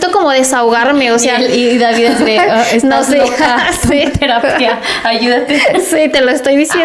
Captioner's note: laughs